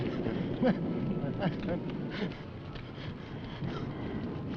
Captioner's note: Bill groaning